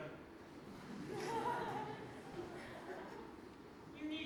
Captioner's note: audience laughs